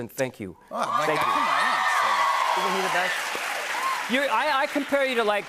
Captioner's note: cheers and applause